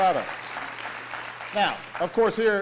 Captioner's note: applause